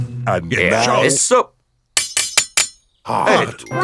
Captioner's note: shovel clanks